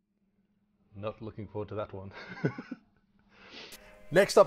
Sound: laughs

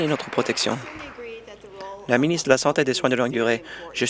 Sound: applause

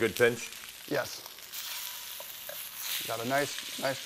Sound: pork sizzling

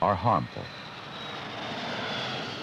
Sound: jet engine

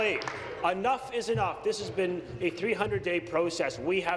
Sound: applause

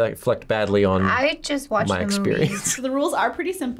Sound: laughs

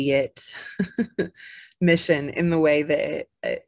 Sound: chuckles

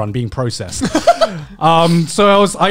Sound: laughing

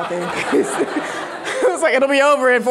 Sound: audience laughing

